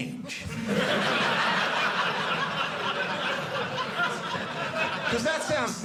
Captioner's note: audience laughing